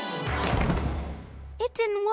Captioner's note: thud